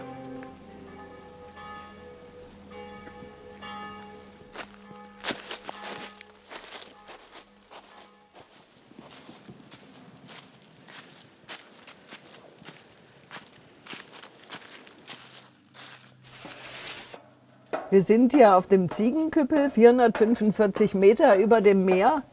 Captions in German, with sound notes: (Entfernte Kirchenglocken läuten.) (Rascheln) Wir sind hier auf dem Ziegenküppel, 445 Meter über dem Meer.